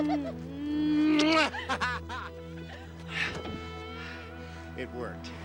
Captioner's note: Jeff laughs; Jill squeals; lips smacking